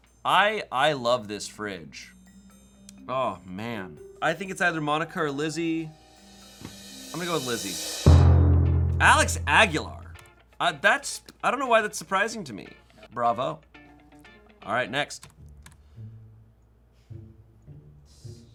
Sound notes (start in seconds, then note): 8.0 thud booms; 17.1 soft music